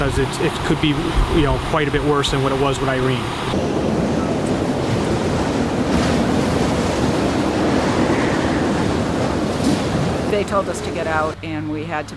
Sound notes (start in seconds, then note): 4.1 sound of wind and waves